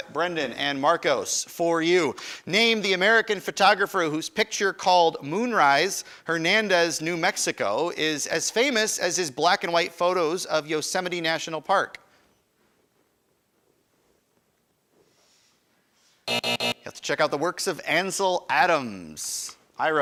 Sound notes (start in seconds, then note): 16.2 alarm buzzes